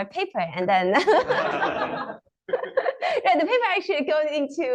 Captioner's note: laughter